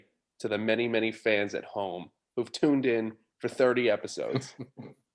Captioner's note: laughter